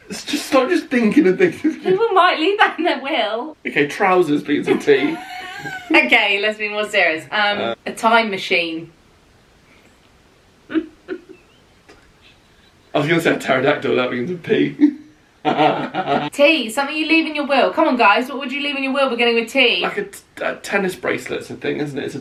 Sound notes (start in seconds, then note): 4.6 laughing; 10.7 laughing quietly; 15.4 laughing